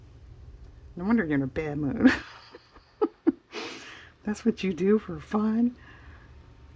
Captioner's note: laughs